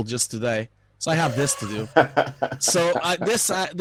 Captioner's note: laughing